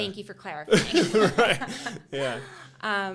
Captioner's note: both laughing